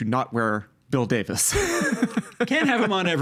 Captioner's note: laughing